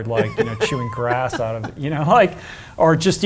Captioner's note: laughs